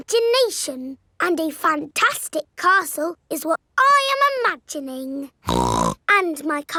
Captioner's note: snorts